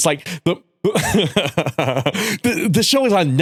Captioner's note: laughter